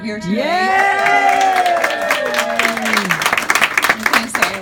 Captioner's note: audience cheering